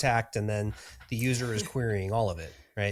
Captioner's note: chuckles